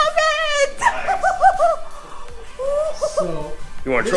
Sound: giggling

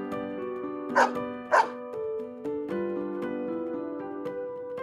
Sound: bark bark

